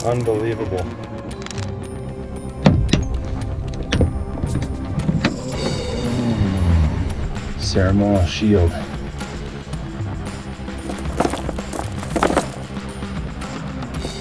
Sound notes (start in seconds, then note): 5.5 upbeat music; 7.2 car engine starts; 11.2 upbeat music